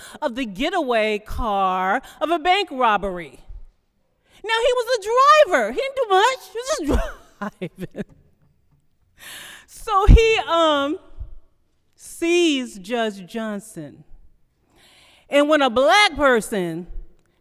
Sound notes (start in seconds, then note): 6.6 laughing